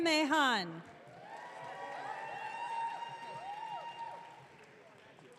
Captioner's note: audience cheering